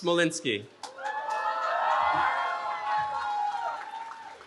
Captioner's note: cheering